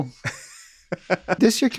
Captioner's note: laughs